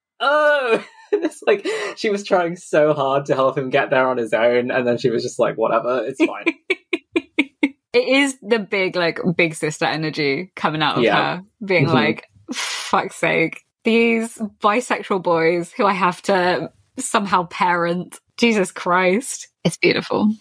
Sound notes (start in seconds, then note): 0.1 laughing; 6.9 laughs